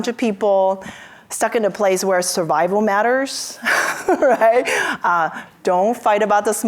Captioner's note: laughs